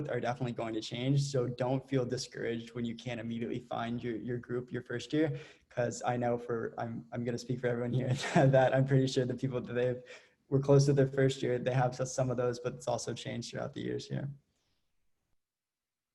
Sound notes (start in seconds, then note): 8.0 laughs